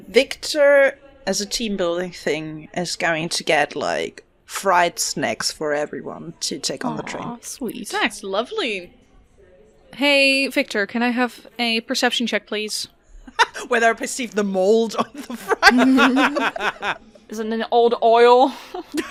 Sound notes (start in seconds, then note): 15.0 laughter